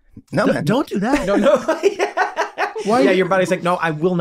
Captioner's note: laughs